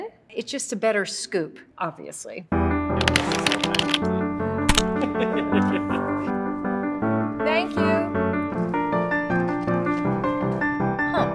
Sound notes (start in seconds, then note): 2.7 bright music; 4.8 makeup artist laughing; 8.8 bright music